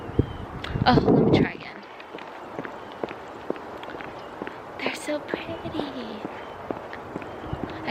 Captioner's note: heels against pavement